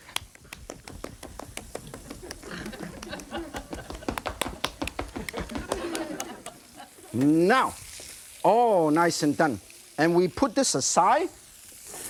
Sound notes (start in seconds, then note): 0.0 clapping burger patty in hand faster; 1.8 audience laughing; 5.0 Yan stomping